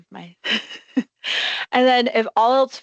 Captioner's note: laughing